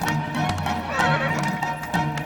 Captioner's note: horse whinnies